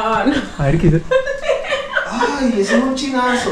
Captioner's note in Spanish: Risas